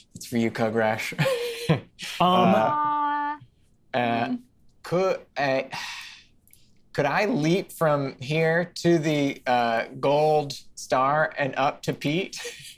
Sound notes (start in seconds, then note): 2.0 laughs; 5.9 sighs